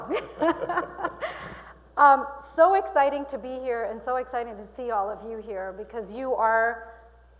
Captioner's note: chuckling